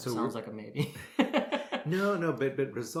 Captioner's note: both laugh